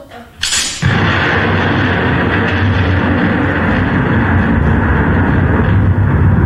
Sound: thunder

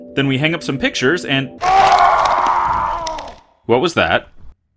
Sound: someone screaming

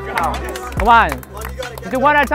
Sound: crowd clapping hands

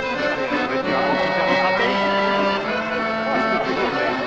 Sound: speaking French

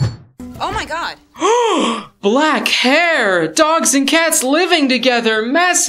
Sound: gasp

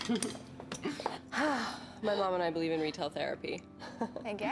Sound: exhaling

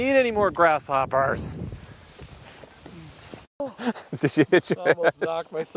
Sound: laughing

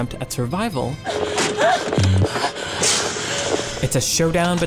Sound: panicked sighing

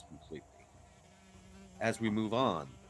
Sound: insect buzzing

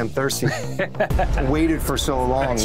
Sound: expert laughs

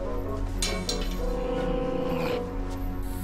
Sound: metal clattering

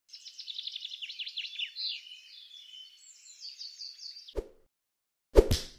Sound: bird sound

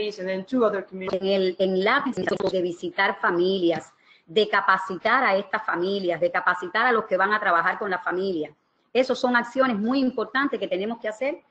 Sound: speaking another language

